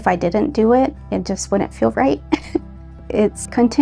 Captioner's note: laughing